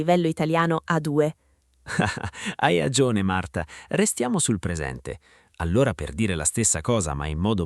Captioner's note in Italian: risate